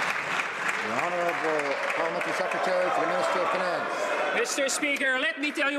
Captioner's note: some Applause